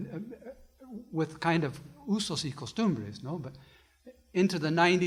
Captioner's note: foreign language